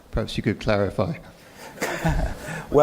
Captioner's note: laughter